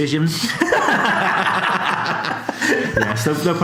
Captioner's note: laughs